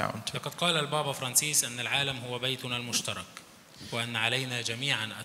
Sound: speaks in foreign language

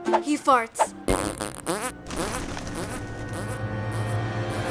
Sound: farting; dramatic music

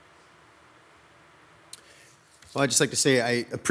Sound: static crackling

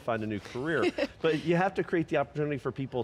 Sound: laughs

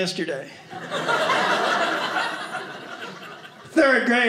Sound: audience laughing

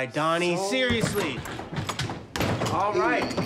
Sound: door opens

